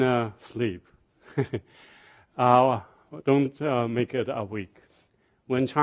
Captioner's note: laughs